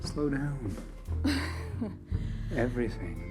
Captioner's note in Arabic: جوان تضحك